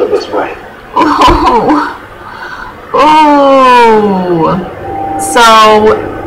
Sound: laughing

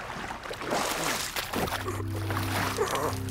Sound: splashing; groaning

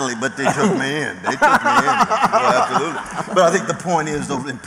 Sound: laughter

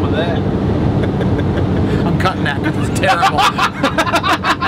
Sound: laughing; chuckles

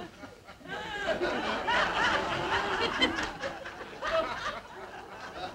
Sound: audience laughing

